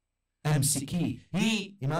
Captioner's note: Arabic